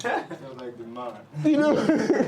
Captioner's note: laughs